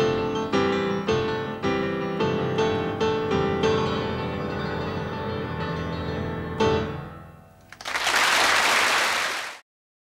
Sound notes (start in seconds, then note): 3.7 lively piano music continues; 7.7 audience applauding